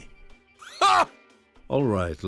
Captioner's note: loud grunt